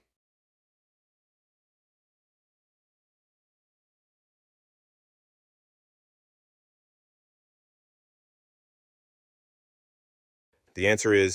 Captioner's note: no audio